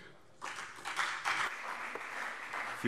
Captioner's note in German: Beifall CDU und BÜNDNIS 90/DIE GRÜNEN